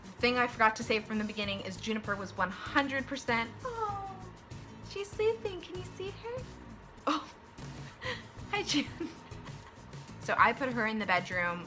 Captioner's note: laughs